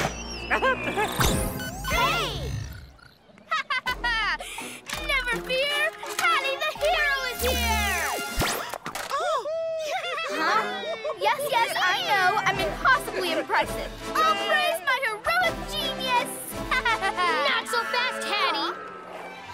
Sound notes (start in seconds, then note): 9.3 cheering; 16.6 laughs